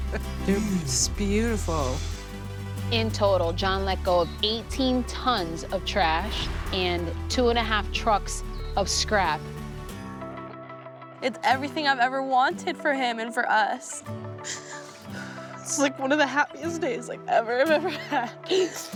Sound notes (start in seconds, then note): 13.8 sobbing